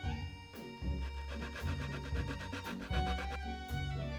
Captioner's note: grating